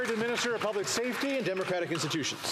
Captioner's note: some Applause